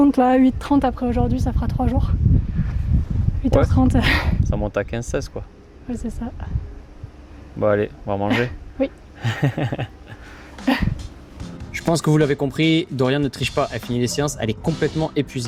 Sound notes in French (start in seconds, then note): 9.2 rires